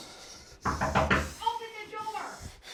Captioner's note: Mark panting; loud knocking